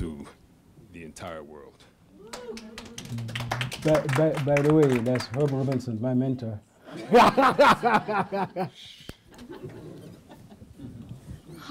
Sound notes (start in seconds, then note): 2.3 applause; 6.9 laughter